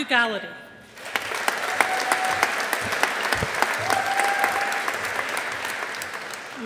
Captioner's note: audience applauding